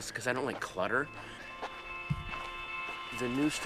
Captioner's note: footsteps crunching